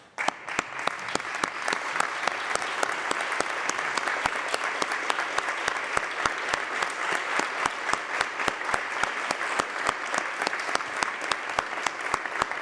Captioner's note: applause